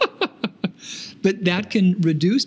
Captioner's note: laughing